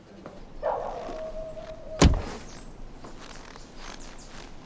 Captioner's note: dog barking